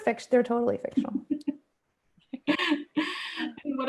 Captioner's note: laughter